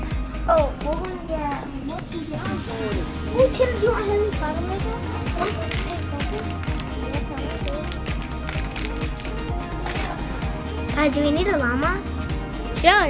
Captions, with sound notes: Oh we're gonna get. Oh him, do you want flower Legos? (murmuring) - Guys, do we need a llama?